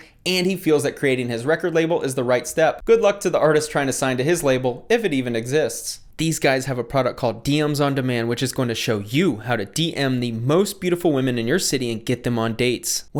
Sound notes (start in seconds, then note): none